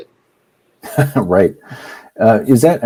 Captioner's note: laughs